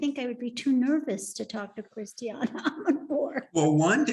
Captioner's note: laughing